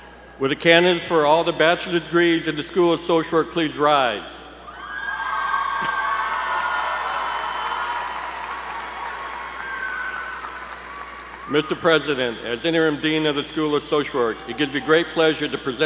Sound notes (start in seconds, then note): 5.6 applause